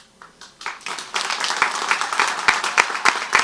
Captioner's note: crowd claps